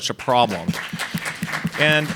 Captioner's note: audience applauds